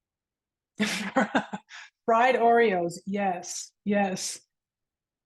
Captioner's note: laughs